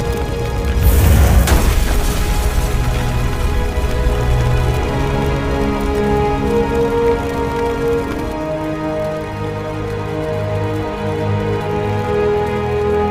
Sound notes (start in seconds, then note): 0.1 flames whoosh; 3.8 flames crackling; 3.8 ominous music